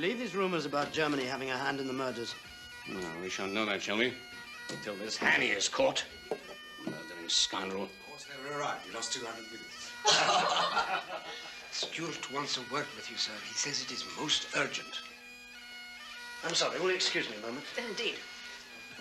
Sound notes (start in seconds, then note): 10.0 all laughing